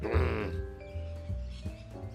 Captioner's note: growls